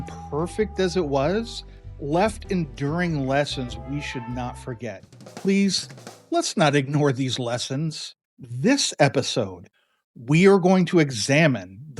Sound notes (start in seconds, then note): 5.5 exasperated